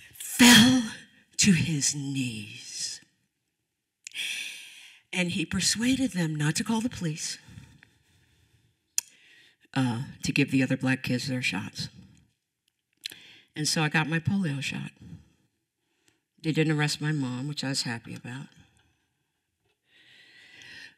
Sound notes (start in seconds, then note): none